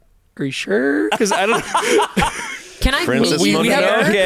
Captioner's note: laughs